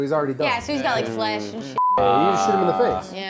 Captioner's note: beep